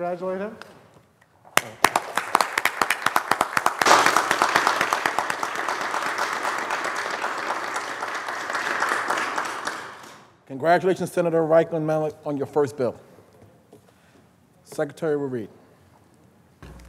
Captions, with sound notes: SENATOR'S FIRST BILL SO PLEASE CONGRATULATE HIM. [ APPLAUSE ]